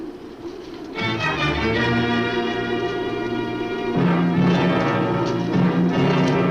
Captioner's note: muffled wind howls; ominous orchestral music